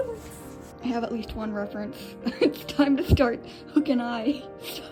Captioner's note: laughing